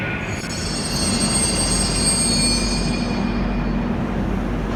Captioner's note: arrival of train at the station